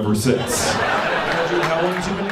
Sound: audience laughing

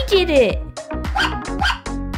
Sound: bark! Bark!

